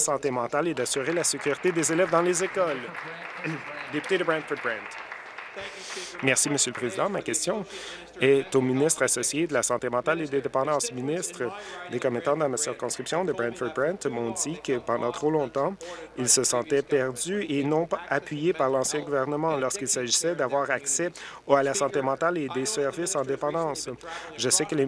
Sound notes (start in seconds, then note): 5.4 applause